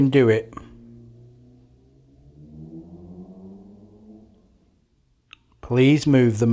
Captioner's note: silence